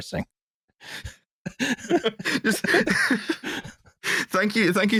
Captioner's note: laughter